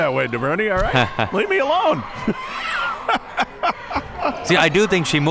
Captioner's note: chuckles; laughs